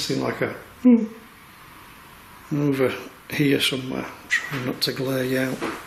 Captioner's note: whimper